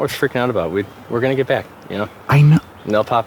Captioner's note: agitated